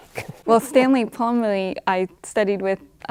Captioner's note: laughs